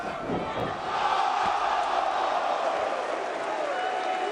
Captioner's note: crowd cheering